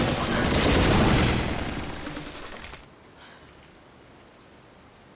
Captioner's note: footsteps thudding